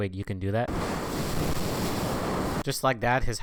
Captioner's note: wind noises